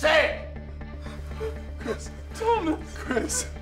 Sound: Chris sobbing

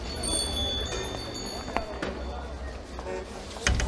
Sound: bells ringing

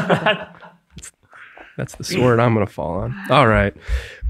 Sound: all laughing

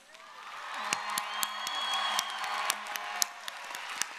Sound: audience cheering

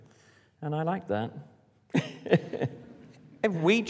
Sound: laughs

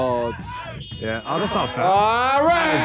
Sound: buzzer buzzing

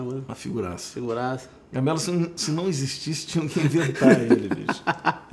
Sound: laughs

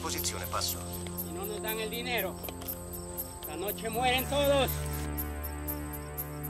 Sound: in Spanish

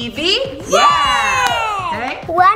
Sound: cheering

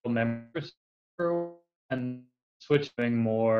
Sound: audio fades out

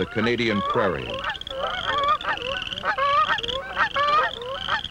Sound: geese honking

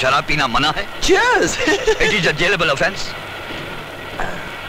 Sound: laughs

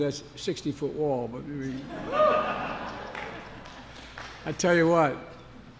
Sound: laughter

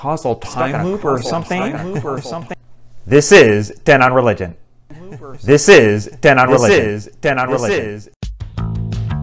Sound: echo

